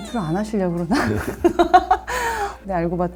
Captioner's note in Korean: 함께 웃는 소리